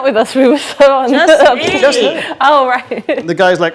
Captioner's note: overlapping chattering